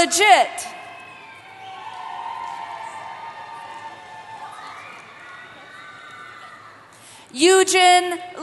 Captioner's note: cheering